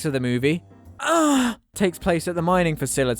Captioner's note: orgasm sound